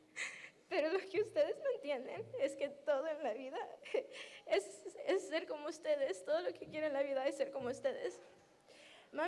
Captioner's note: sobbing